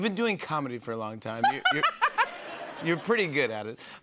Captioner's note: laughter